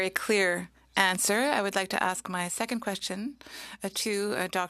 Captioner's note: speaking French